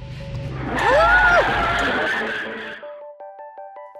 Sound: screeching car brakes

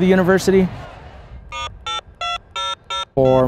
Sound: dialing phone

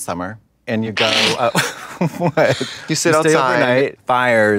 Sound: Trixie snickers

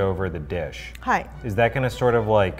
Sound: speaks in foreign language

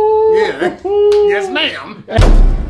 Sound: slaps hands

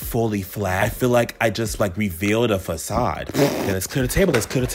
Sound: lip-trilling

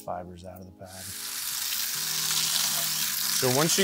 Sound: water rushing into bucket

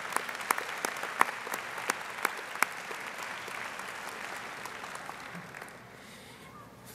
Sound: audience applauding

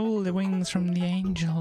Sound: none

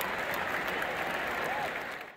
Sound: cheering fades out

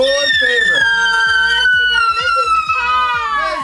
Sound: screaming

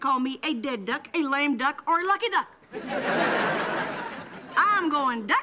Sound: audience laughing

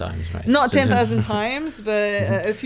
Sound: laughing

